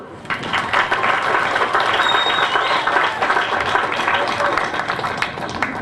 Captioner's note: applause